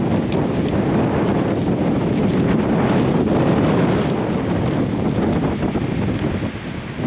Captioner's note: few seconds of wind noise only, just for refrence